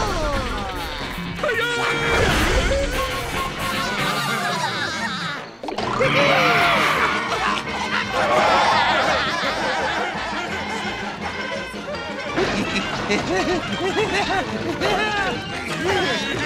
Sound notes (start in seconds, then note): 3.8 giggling; 11.9 panting